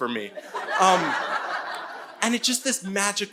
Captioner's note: audience laughing